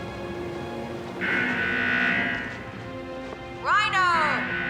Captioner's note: alarm buzzing